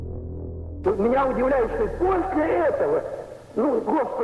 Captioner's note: speaking Russian